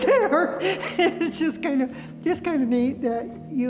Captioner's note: laughing